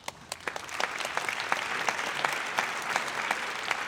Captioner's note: audience applauds